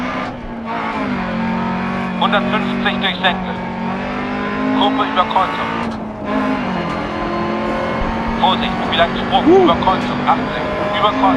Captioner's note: engine noise and co-pilot's instructions